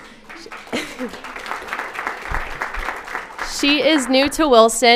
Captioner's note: applauds